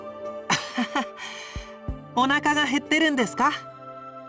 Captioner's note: laugh